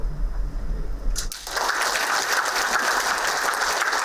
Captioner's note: applauding